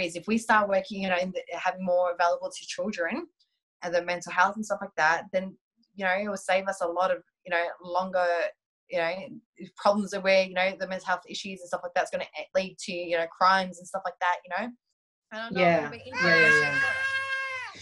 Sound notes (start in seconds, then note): 15.5 baby cooing